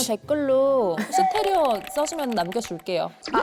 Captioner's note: Typical SNS sound effect